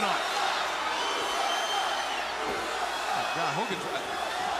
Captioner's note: crowd cheering